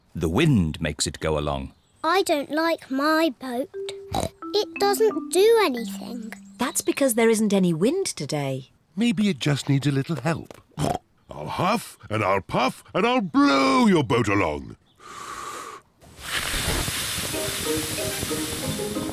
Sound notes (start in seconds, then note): 10.7 snorts; 15.0 inhales, blows